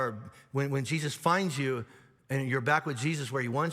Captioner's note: none